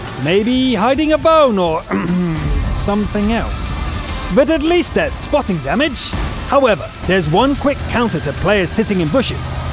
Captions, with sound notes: Maybe hiding a bone or, *cough* something else, but at least there’s spotting damage! However, there’s one quick counter to players sitting in bushes…